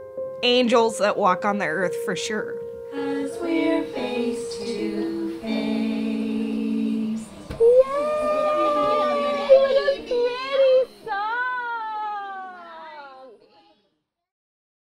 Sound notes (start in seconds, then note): 8.0 people chattering